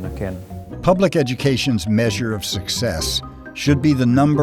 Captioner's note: voiceover